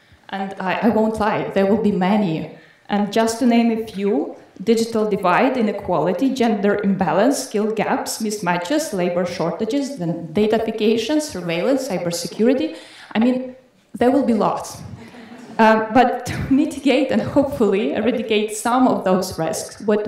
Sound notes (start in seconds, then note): 14.9 audience laughing